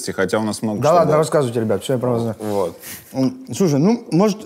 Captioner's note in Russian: none